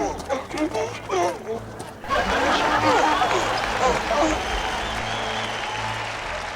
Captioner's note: 驴叫声; 观众欢呼声